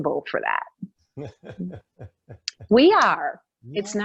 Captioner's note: laughing